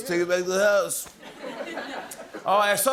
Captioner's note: laughter